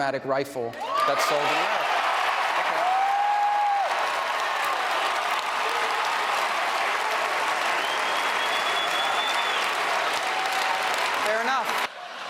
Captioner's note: cheers and applause